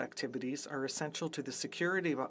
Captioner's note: speaking French